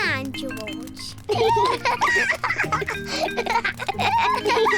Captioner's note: both giggle